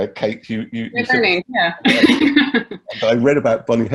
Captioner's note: laughs